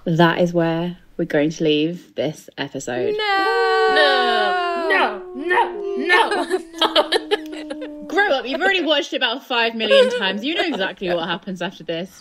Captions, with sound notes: That is where we're going to leave this episode. - No! (whining) - No. - No, no! (laughing) - Grow up, you've already watched it about five million times. You know exactly what happens after this.